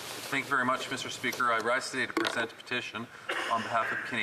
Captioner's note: speaking French